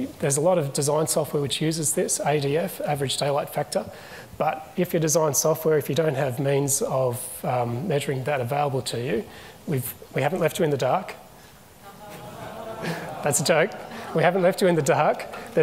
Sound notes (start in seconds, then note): 11.8 audience chuckles